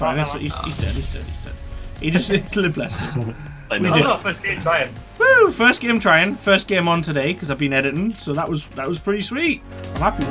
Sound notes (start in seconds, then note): 2.8 laughing and overlapping chatter